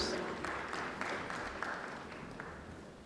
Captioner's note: applause